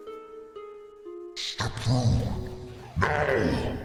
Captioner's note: deep voice